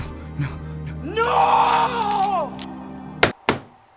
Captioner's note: screams